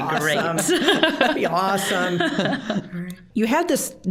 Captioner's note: all laughing